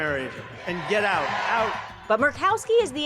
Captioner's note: crowd cheering